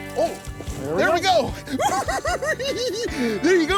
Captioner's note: giggling